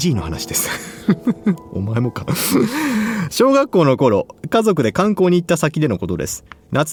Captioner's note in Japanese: 笑い; 息をのむ音